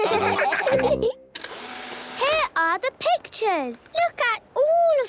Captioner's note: whirring